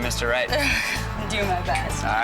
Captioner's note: laughing